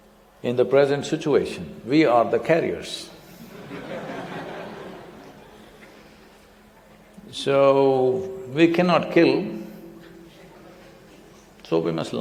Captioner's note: laughter